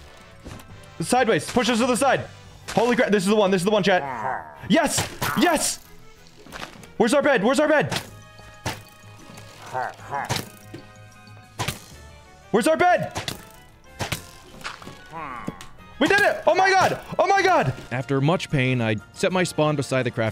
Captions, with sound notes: Sideways-- Push us to the side. Holy crap-- This is the one, this is the one, chat. Yes, yes! Where's our bed, where's our bed? [pillager hrrnngh-ing] [crossbows firing] Where's our bed? We did it! Oh my god, oh my god! After much pain, I set my spawn beside the crafting